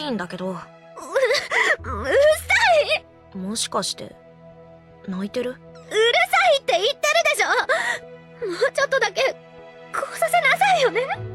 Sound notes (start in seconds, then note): 1.0 sob